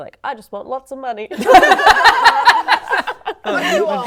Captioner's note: laughing